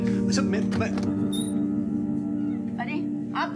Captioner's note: Door opens